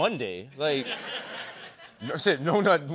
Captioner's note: laughter